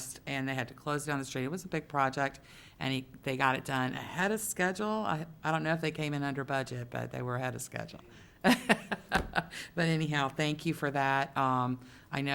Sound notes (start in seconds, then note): 8.5 laughing